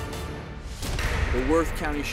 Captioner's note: bangs